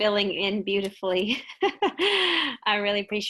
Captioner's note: giggles